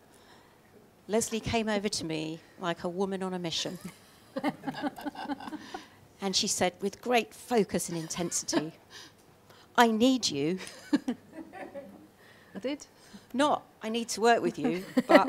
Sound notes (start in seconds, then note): 4.4 laughing; 10.6 laughing